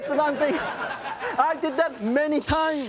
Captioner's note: audience laughs